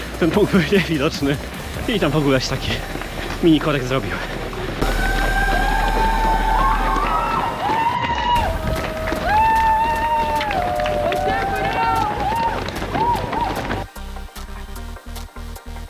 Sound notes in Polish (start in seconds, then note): 8.1 Aplauz